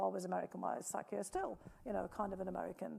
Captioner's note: speaking foreign language